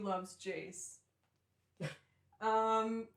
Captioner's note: laughter; laughing